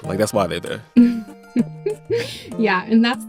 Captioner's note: laughter